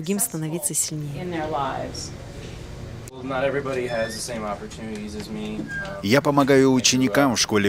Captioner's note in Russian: английская речь